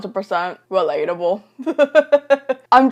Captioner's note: laughs